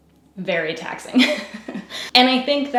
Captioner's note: laughs